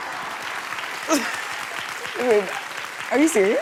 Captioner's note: chuckles